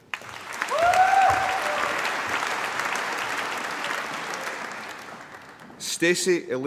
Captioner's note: applause